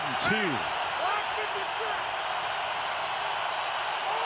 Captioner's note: crowd cheering